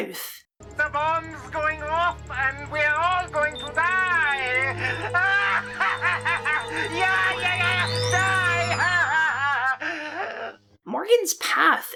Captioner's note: manic Laughter